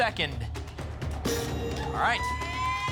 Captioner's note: ping